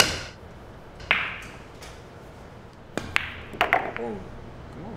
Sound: balls hitting

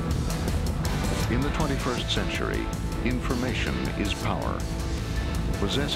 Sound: voiceover

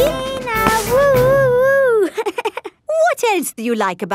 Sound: chuckles

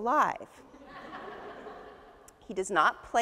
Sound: audience laughs

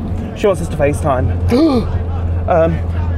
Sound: gasps

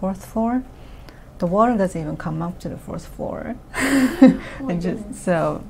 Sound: laughs

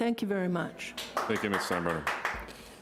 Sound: person applauding

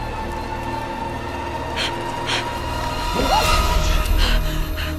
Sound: panting

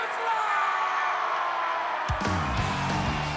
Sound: cheering

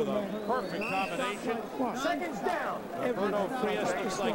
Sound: whistle blows

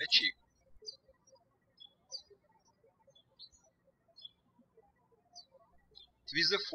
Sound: birds chirping

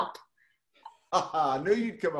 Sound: laughs

